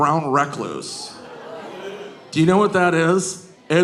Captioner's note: audience groaning